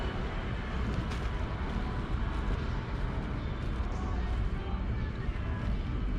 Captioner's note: ambient department store noises